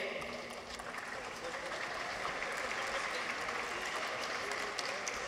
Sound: audience applauds

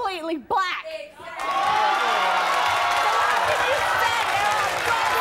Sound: audience cheers

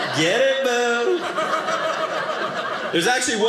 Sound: audience laughing

